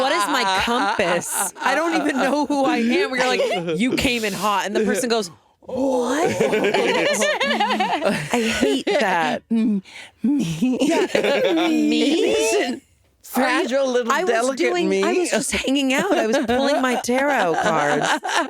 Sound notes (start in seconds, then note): 6.0 all laughing